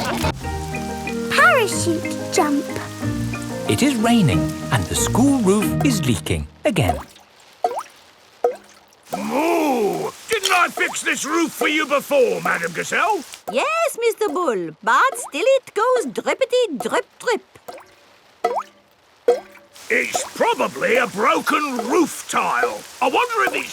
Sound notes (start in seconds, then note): 8.2 water dripping; 19.0 water dripping